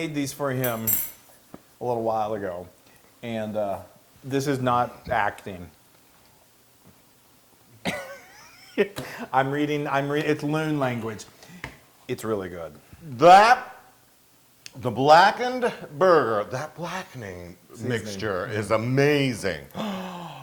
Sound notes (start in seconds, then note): 7.8 laugh